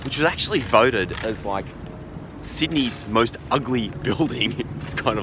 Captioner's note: laughs